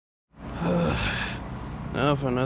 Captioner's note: sighing